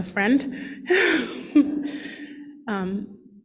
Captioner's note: laughs